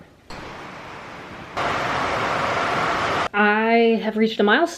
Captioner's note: rainstorm sounds